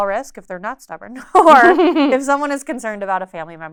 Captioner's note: laughs